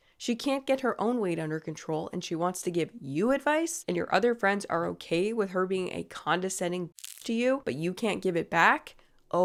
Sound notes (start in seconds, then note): 7.0 paper rustling